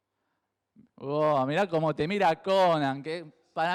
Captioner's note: mockingly